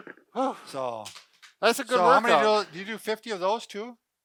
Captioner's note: slaps stomach